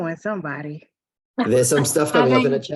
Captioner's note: laughing